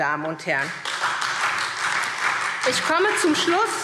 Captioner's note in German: Beifall SPD und DIE LINKE